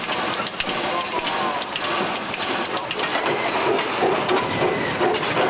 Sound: train chugging

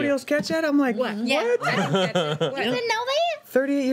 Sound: laughing

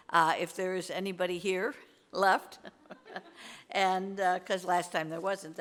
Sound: laughs

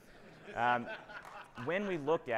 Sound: audience laughing

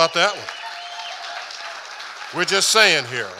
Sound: audience applauding and cheering

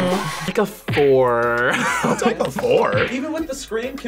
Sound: laughs

